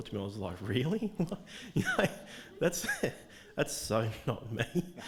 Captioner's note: laughing